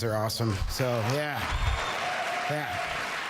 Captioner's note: cheers and applause